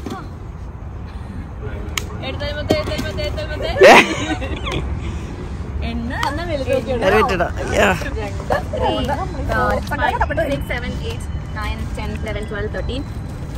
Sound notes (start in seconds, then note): 3.7 laughing